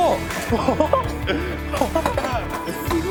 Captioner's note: both participants laughing; dreamy synth music